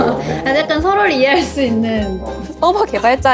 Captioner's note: laughs